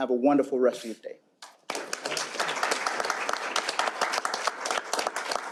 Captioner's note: applause